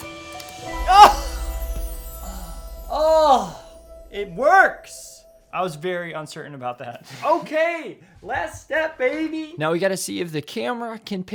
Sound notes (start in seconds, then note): 0.7 sighs